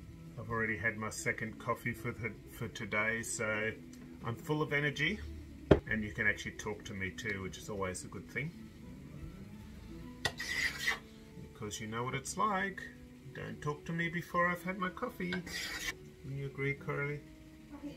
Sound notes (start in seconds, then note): 10.2 scrape; 15.4 scrape